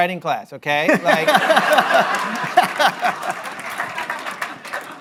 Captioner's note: laughter